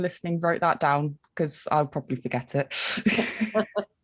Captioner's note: laughs